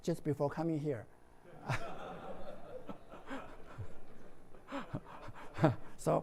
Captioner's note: laughs